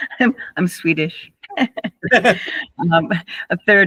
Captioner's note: laughter